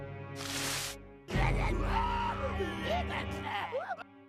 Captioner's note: all growling